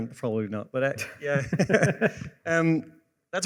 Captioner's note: laughs